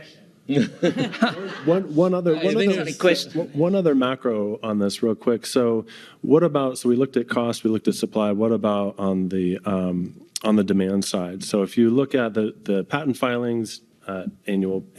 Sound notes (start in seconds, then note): 0.5 laughing